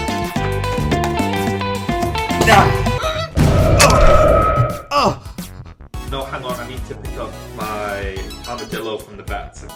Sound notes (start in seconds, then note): 3.4 explosion